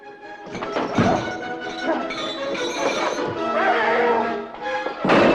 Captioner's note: clattering